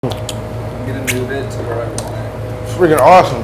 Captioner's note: smacking lips